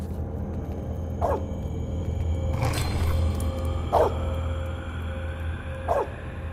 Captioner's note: Dog barks